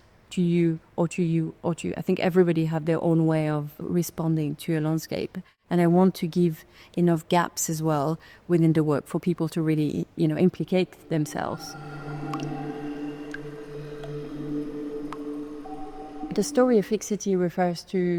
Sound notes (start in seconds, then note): 10.9 pensive music; 11.0 water dripping